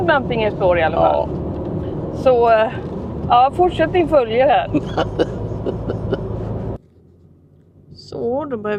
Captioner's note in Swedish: skratt